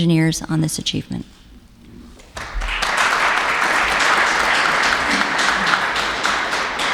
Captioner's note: applauses